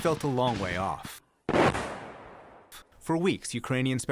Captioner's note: gunshots